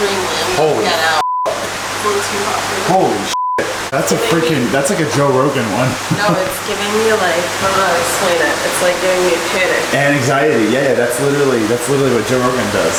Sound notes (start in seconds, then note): 1.2 beep; 3.3 beep